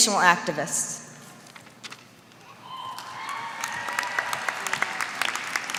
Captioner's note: applause